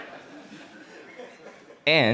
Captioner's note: audience laughs